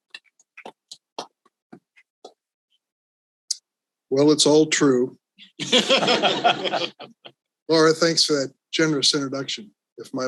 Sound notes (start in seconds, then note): 5.6 all laughs